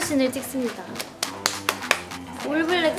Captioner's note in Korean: 박수